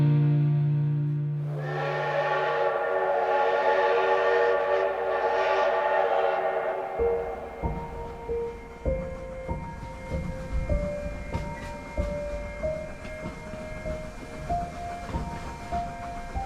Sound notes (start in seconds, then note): 1.4 steam Train Whistle Blowing